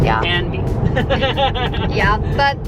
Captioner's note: laughing